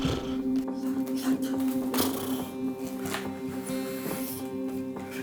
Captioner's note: imitates engine revving